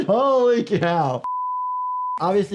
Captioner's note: graphic beeps